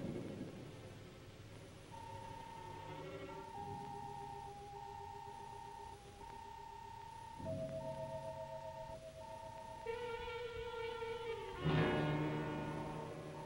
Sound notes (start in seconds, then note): 2.3 electronic beeping; 10.4 dramatic music